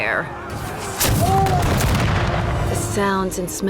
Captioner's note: cannon blasts, gunfire